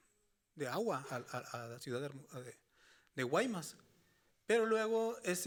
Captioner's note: speaking Spanish continues